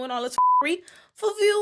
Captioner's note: beep